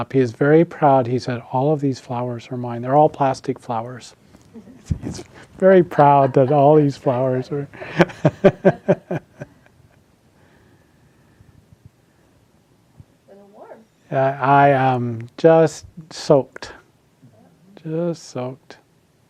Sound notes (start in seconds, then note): 5.7 attendees laughing; 8.9 laughs